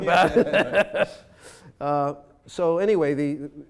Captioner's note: laughing